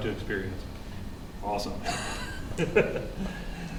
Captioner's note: laughs